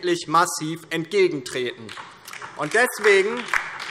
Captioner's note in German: Beifall DIE LINKE